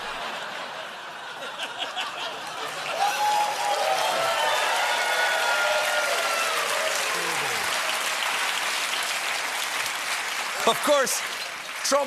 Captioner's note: whispers; laughter; cheers and applause